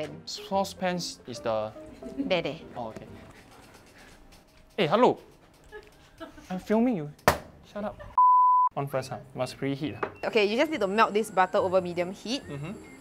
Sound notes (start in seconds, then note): 3.4 chair creaking